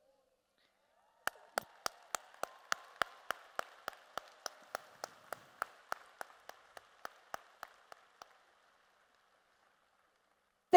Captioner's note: applause and Cheers